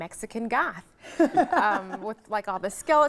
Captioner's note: laughing